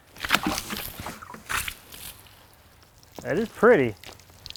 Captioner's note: water sloshes